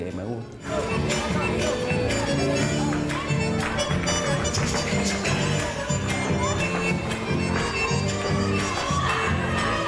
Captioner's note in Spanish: aplausos y gritos